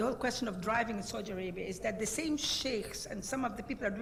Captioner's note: speaking in foreign language